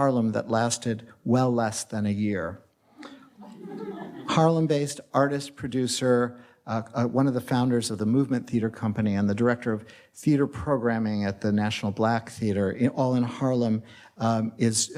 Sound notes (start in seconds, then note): 3.3 audience laughs